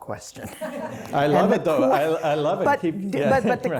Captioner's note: laughter